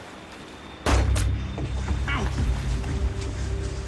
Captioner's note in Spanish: Disparo